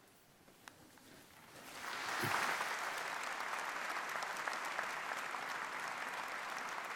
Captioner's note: applause